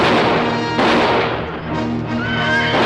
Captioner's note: gun fire banging; horse neighing